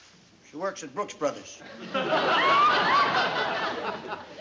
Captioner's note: laughter